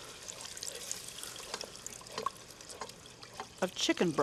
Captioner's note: broth trickling; spoon banging